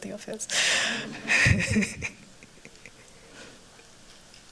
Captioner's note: laughter